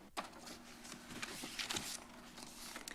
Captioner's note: rustles